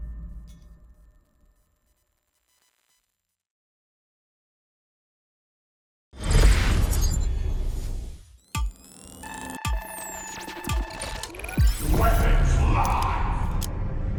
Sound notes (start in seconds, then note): 8.3 electronic flickering